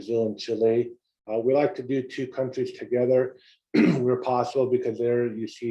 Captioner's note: cough